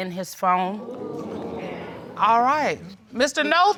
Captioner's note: crowd crinjes